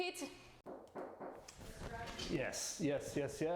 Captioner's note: knock